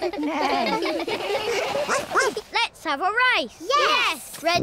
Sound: all laugh; barks

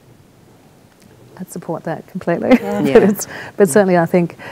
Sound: chuckles

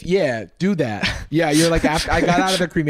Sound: laughs

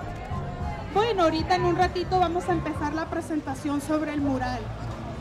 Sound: speaks foreign language

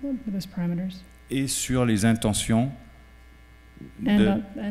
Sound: speaking french

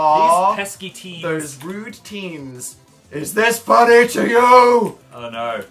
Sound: loud, deep voice

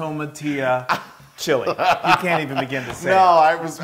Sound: laugh

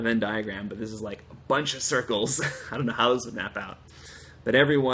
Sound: laughter

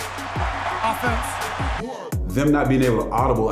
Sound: crowd cheering

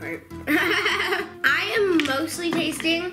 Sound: laughs

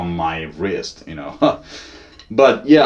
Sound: laughing

